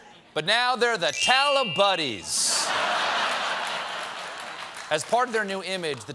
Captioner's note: laughter